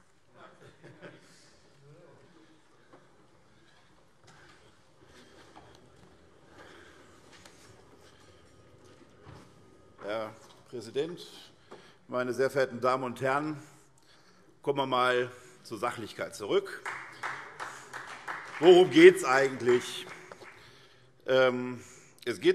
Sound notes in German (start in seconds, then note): 16.6 Beifall SPD